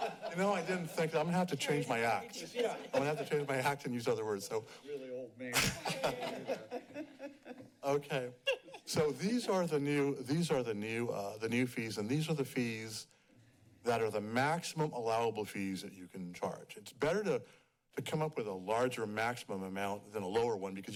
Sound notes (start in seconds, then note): 0.0 laughs; 5.5 laughs